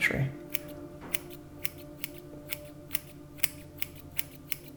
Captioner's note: scissors snipping